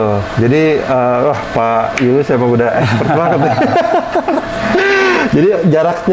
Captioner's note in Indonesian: tertawa kecil